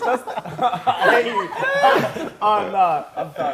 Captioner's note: laughing